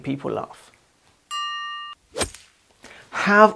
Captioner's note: bell dings